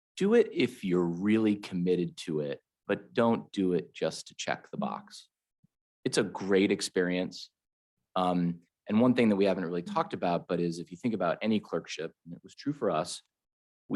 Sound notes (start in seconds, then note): none